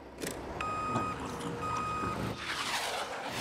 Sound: beeping

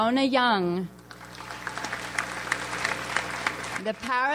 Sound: audience applauds

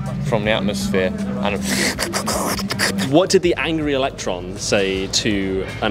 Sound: carbon sucking noises

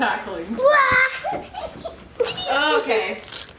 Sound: laughs

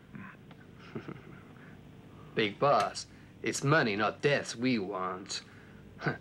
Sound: chuckles

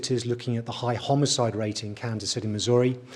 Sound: none

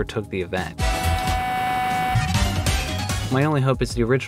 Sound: obnoxious buzzing sound

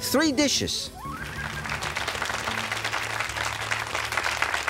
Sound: audience clapping

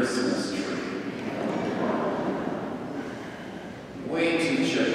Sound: crowd laughing

